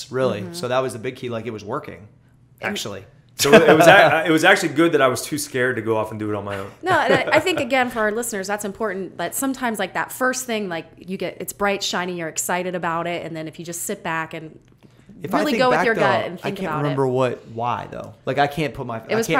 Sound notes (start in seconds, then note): 3.4 laughs; 6.5 chuckles